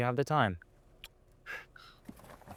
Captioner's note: blowing kiss sound